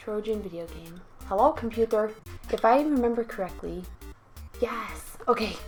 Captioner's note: keyboards clicking